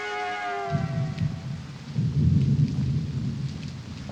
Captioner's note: thunder